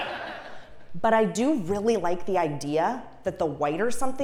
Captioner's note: laugh